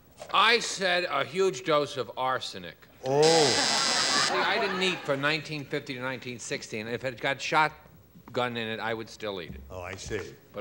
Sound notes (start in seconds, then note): 3.2 buzzer